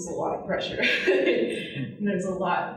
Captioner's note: laughing